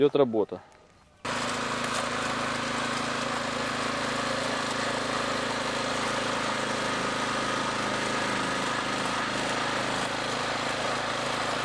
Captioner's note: the sound of the motor-cultivator engine is heard